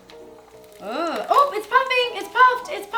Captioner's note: crackling